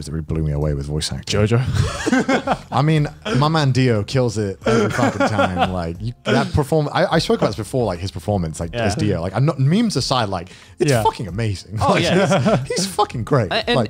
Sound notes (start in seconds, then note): 1.6 laughs